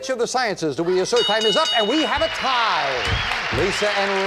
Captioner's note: bell